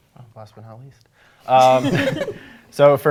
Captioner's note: laughter